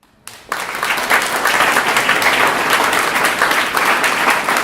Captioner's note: applause